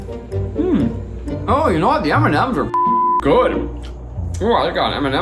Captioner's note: beep